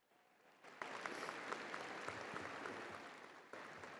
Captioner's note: crowd applauding